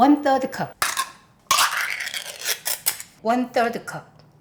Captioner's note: can lid tearing